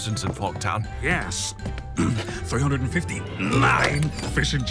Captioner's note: clears throat